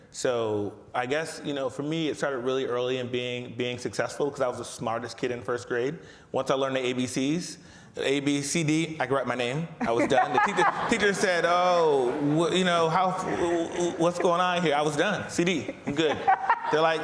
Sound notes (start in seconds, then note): 9.8 laughs; 9.8 audience laughs